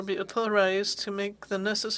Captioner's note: speaking French